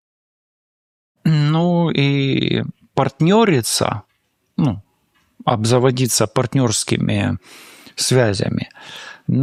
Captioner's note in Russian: откашливается